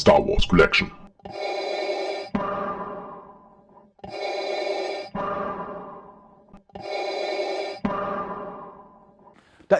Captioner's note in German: Darth Vader Atemgeräusche